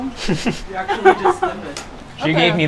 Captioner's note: laughs